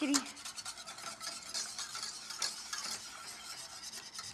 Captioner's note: scraping